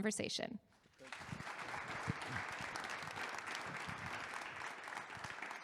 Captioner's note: audience applauding